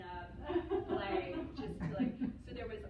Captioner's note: laughter